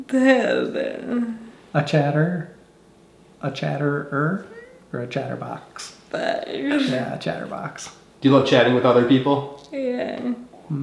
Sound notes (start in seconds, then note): 6.2 laughing